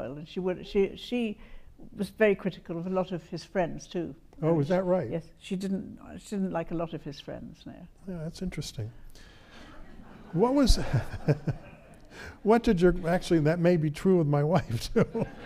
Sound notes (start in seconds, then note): 9.5 audience laughs; 10.3 laughs